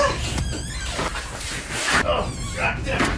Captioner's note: door creaking